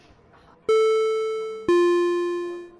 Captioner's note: intercom Startup